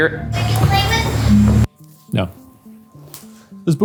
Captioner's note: disembodied Voice